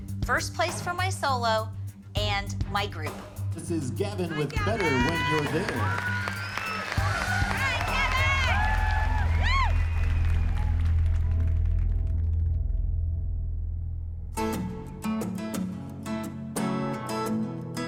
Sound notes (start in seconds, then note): 5.8 cheering; 9.8 tense music